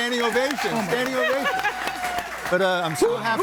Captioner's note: everybody laughing